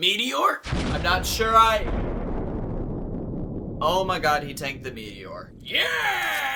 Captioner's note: explosion